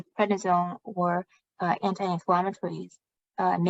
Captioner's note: speaking chinese